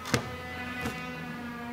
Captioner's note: sound of sawing